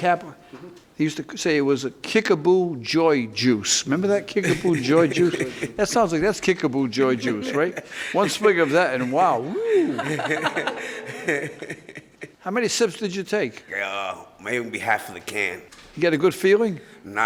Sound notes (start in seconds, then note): 10.2 laughs